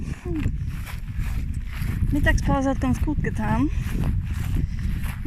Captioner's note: steps